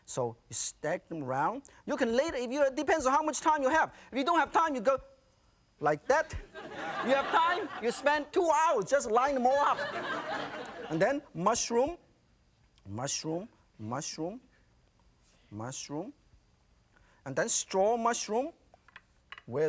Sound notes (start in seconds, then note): 6.4 audience laughing; 9.5 audience laughing